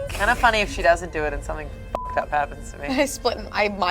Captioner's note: beep